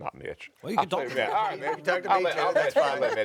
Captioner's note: group chuckles and chatters; chuckles